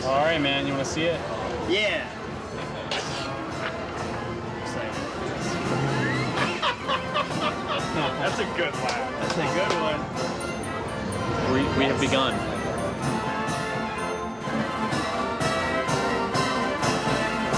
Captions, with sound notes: All right man, you want to see it? - Yeah. (laughing) - That's a good laugh, that's a good one. We have begun. (upbeat carnival music)